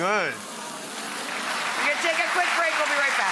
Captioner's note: audience applauds